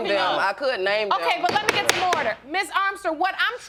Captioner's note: gavel bangs